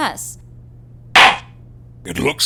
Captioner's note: gavel slams!